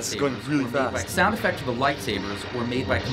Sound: voice-over

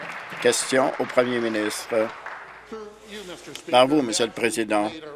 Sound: applause

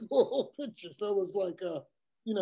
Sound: laugh

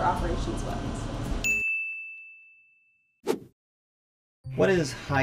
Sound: ding; swish

